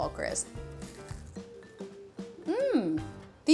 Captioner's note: churro crunches